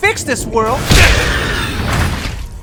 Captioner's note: grunt